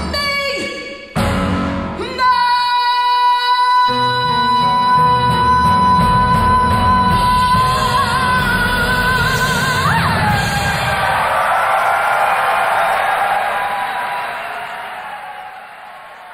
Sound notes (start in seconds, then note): 9.8 crowd cheering